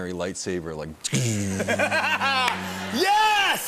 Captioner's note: Imitates lightsaber sound; laughing